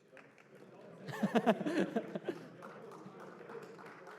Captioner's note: laughter